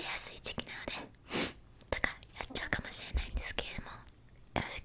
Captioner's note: nose sniff